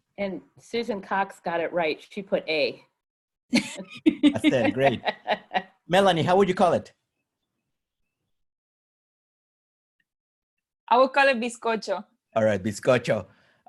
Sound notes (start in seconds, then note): 3.5 laughter